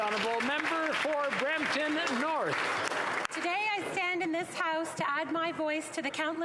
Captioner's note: applause